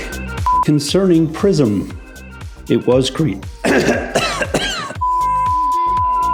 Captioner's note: coughs; beep